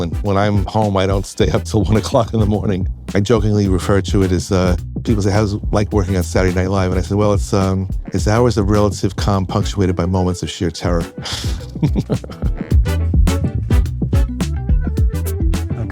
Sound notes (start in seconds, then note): 11.1 chuckles; 12.6 upbeat music